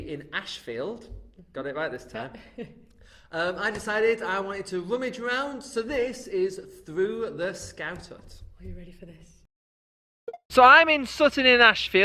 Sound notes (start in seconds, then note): 9.8 blip